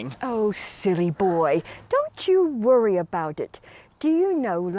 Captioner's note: none